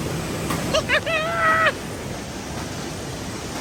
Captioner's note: laughing